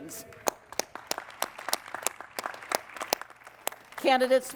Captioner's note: applause